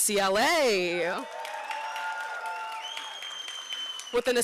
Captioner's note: applause